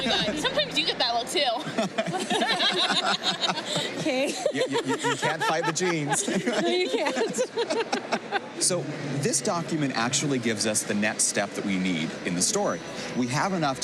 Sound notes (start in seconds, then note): 2.1 laughter; 4.7 laughter